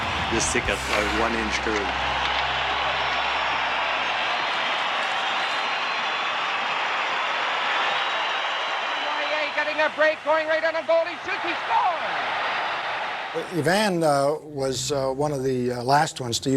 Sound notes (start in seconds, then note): 3.4 crowd cheers